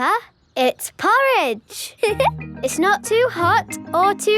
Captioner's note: giggles